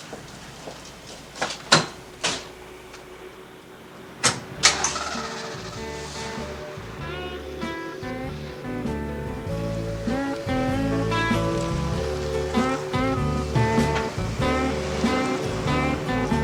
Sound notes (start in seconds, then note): 4.1 engine rumbling; 4.1 mellow music